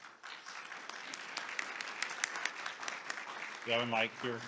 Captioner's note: applause